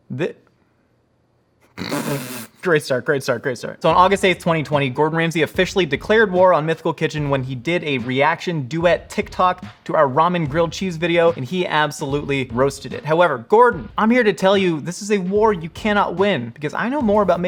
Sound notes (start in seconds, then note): 1.7 snickering